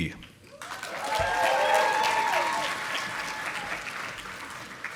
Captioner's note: audience applauding